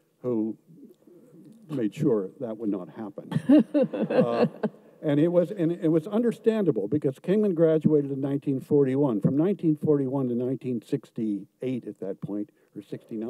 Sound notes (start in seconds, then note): 3.3 laughs